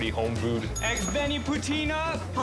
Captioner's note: bell dings